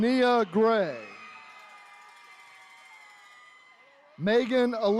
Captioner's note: attendees cheering